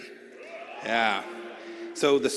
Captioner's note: cheers